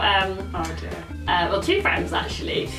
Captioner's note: none